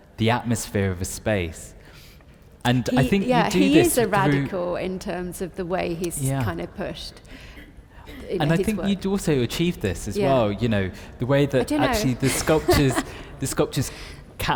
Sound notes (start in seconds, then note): 11.6 laughs